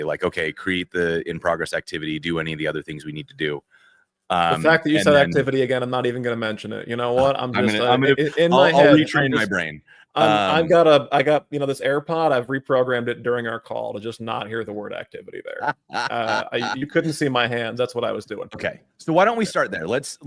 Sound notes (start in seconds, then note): 15.5 laughter